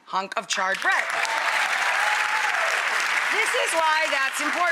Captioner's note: audience cheers